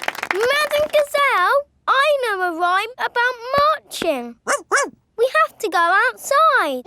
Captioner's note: laughing and clapping; barks